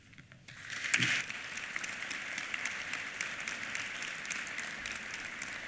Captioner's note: applause